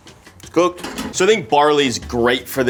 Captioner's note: spoon clunks